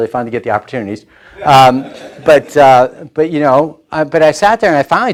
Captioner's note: laughing